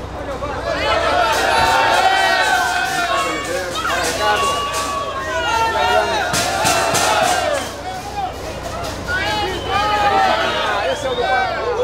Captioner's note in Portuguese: torcedores gritando